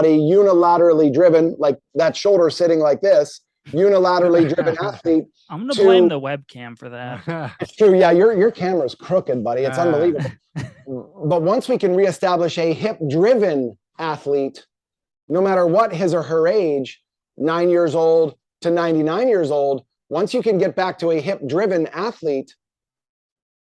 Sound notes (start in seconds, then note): 4.2 chuckle; 6.9 chuckles; 9.7 chuckles